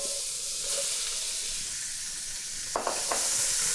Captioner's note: pan sizzling